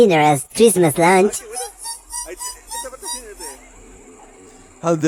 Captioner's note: 𝐋𝐚𝐮𝐠𝐡𝐭𝐞𝐫